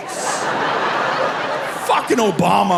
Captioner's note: audience laughing